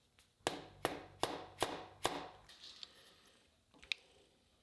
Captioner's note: hammer thudding